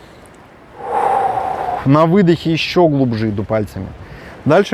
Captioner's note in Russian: выдох